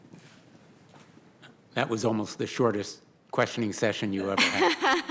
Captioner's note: laughter